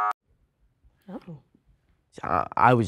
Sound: buzzer

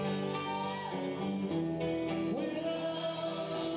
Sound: audience cheering

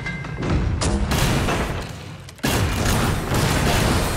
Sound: bomb exploding; guns firing

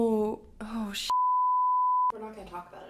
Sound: beep

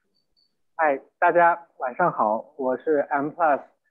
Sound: Mandarin

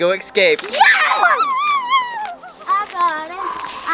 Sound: cheering

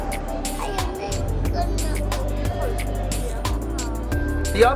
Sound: child babbling

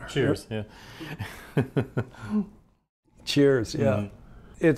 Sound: chuckles

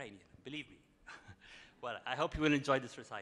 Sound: chuckles

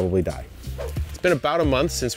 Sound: light music; air whooshing

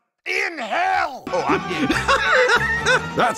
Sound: laughing mad

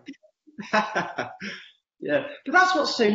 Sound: laughs

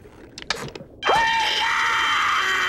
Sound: screaming

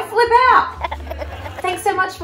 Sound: giggling

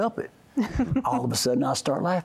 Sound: giggling

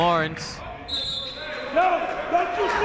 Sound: whistle blowing

